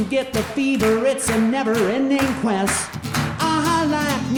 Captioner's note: audience clapping